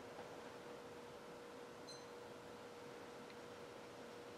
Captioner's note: timer beep